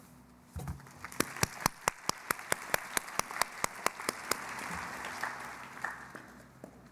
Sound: applause

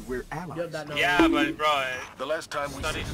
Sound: bonk Sound effect

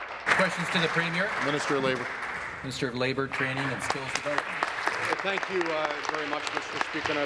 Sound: applause

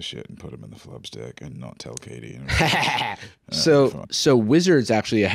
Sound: cackles

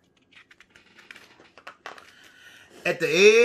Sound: paper flipping

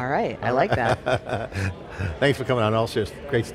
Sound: laughs

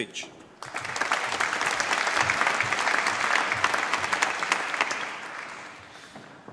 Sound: applause

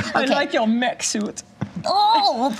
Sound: imitating German accent; imitating child's voice

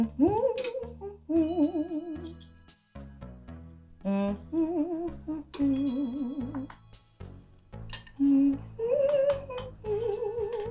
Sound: Violet hums a song

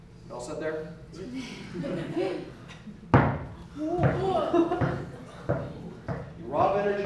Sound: laugh

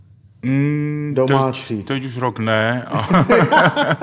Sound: laughing

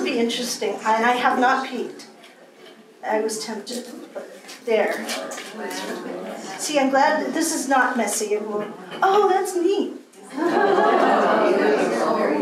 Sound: laughter and gasps

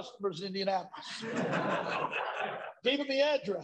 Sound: laughter

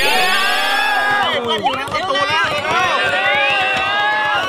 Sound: cheering

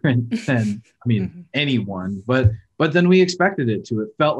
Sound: laughing

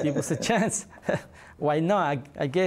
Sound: laughter

